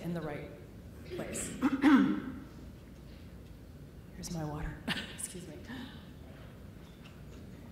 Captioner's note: coughs